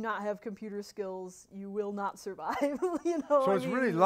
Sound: laughter

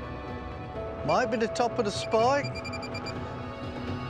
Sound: beeping

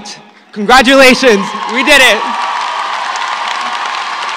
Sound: applause

